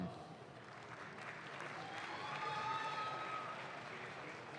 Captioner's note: audience claps